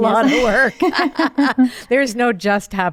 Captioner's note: laughing